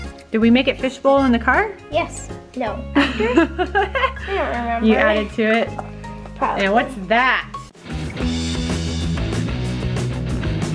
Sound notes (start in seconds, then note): 2.9 laughs; 7.5 upbeat rock music